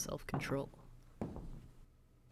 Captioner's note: SFX: Footsteps end, door opens